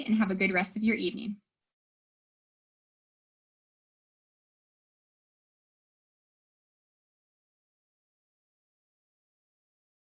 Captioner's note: silence